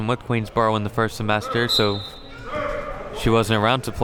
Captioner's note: whistle blows